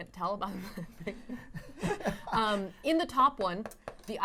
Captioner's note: laughing